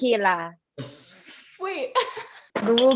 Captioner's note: laughs